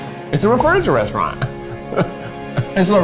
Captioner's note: laughs